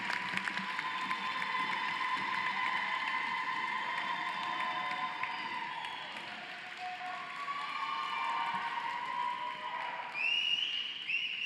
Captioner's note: cheering and applause